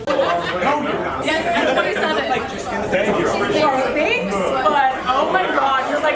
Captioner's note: people chattering